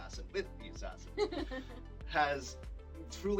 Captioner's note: laughs